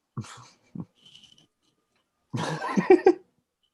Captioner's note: chuckling